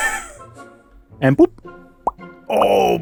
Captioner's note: sounds of little mushrooms emerging from the dirt